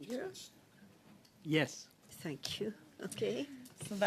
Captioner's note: speaking French